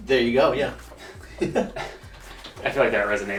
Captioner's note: laughs